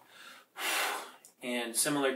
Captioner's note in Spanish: Sopla aire